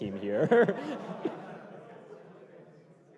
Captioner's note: laughter